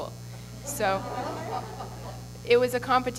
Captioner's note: laughter